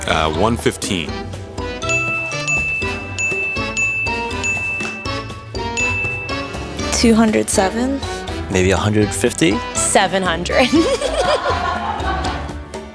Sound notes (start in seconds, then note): 10.6 laughter